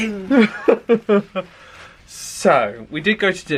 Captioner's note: laughs